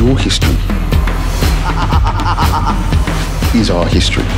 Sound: man laughing

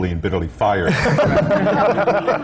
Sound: laughter

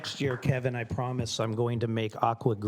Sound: applause

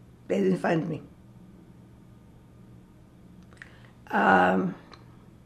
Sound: pauses 6 seconds

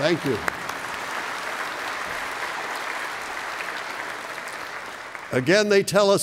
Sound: applause

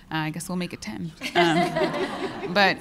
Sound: laughter

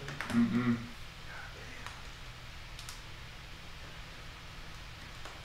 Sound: students whisper

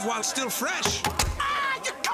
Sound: knife chopping

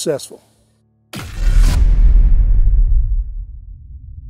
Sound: rumbling, static

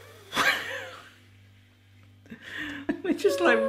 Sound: both laughing

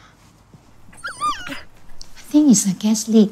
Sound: dog whines

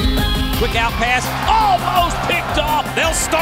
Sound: voiceover

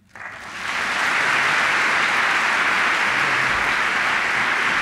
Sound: applause

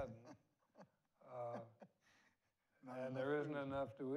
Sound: laughs

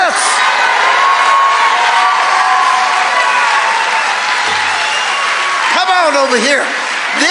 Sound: congregation cheering

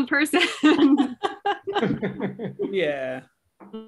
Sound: laughter

